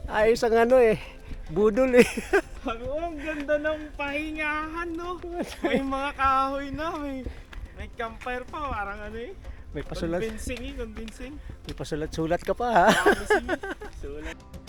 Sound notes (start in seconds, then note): 12.2 laugh